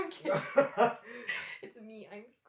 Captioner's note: laughter